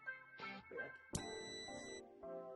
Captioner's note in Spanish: sonido: piiiii